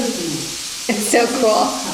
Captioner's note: water running